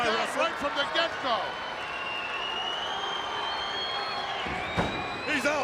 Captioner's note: crowd yelling